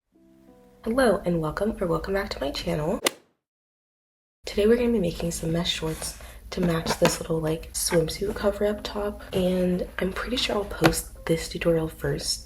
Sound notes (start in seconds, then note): 3.0 golf hit sound effect